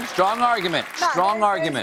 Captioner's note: applause